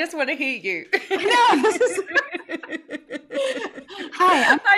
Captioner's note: both laughing